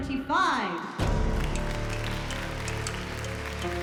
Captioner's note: applause